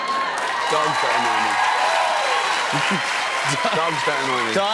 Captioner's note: cheers and applause; chuckles